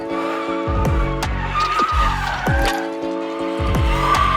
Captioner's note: tires screeching